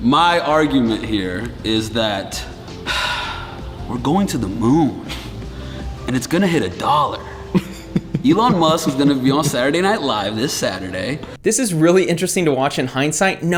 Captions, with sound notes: - My argument here is that, (sighs) we're going to the moon. And it's gonna hit a dollar. (laughter) Elon Musk is gonna be on Saturday Night Live this Saturday. - This is really interesting to watch in hindsight